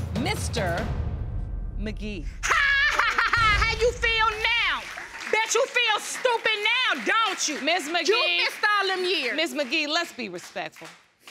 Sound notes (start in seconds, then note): 2.4 laughing raucously; 5.3 audience applauding